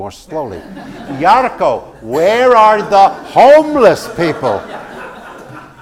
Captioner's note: laugh